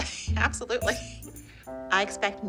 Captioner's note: laughing